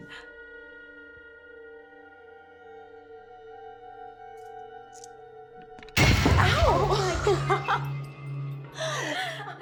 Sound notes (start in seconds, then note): 0.2 ominous music; 5.9 glass cracking